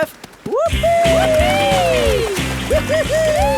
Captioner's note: both whooping